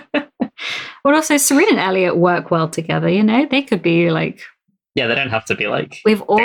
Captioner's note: laughs